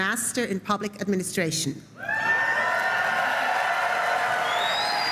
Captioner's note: applause